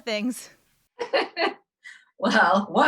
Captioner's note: laughs